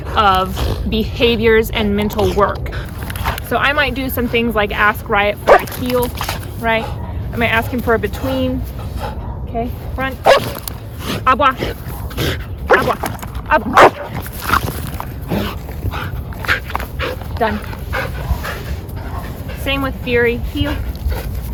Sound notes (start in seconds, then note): 11.8 dog barking; 12.7 foreign language; 13.7 dog barking; 16.0 dog panting